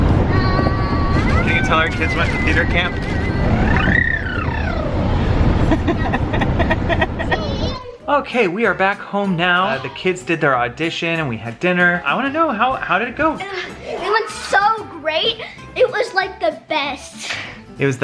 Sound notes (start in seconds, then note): 5.6 laughs